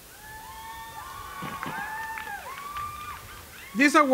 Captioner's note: cheering